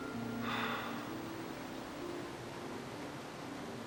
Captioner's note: sighs